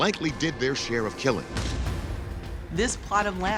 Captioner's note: cannon blasting